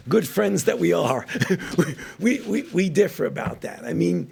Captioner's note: laughs